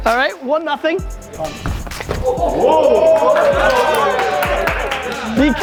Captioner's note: group exclaims